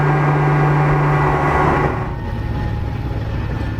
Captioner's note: engine rpm decrease